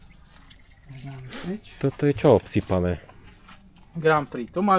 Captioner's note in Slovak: smrkanie